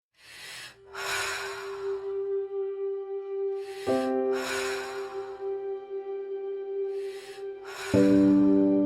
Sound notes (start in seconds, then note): 0.0 breathing loudly; 3.9 gentle music